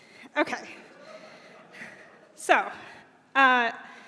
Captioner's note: laughter